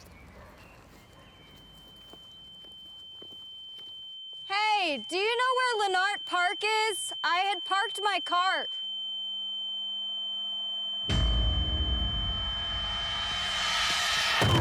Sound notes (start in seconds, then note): 1.8 high pitched tone; 9.2 high pitched tone; 11.1 dramatic musical score; 14.3 masked figure thumps